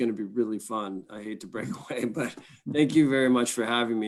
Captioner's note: chuckles